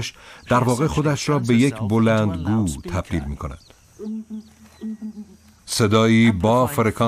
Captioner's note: low chirp